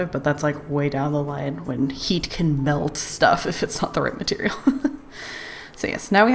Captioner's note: laughs